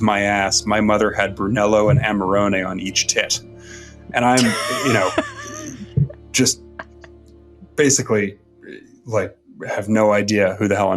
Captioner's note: laughs